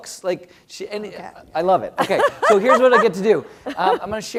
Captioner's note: laugh